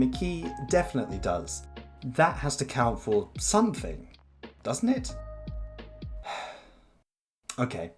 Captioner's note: sigh